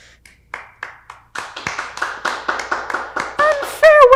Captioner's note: applauses